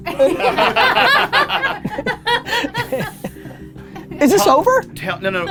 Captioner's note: group laughter